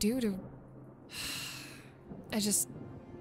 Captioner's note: sighs